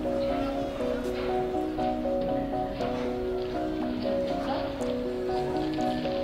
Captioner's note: woman, speaking native language